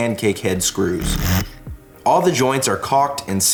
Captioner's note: drill machine drilling